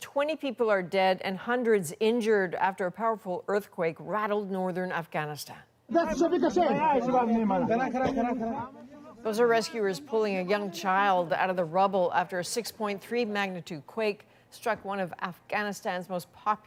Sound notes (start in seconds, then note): 8.0 speaking alternate language